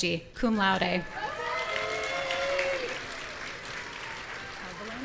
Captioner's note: audience cheering